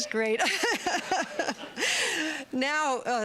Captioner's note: laughter